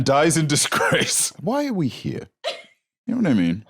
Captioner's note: laughs